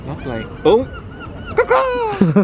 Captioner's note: seagulls squawking